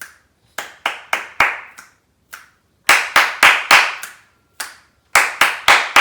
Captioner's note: clapping and snapping